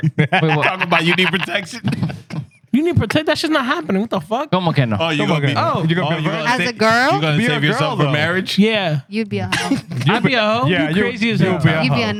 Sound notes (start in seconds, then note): 0.0 laughing